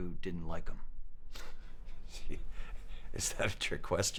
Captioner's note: chuckles